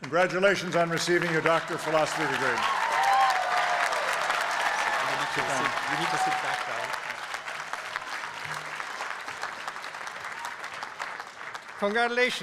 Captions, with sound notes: Congratulations on receiving your Doctor of Philosophy Degree. [APPLAUSE]